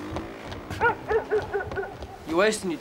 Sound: dog barking in distance

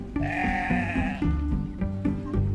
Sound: sheep bleating; pizzicato string music

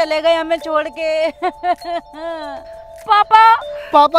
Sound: crying

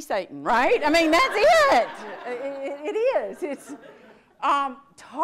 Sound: audience laughs

